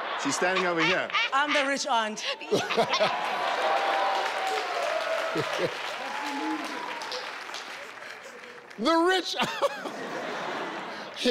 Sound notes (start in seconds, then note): 0.1 laughing; 2.3 audience cheering; 6.5 laughing